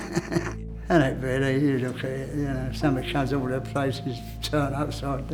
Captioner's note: laughs